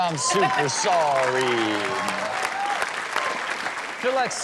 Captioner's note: audience cheers